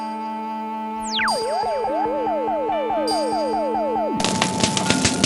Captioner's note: laser thrums and zaps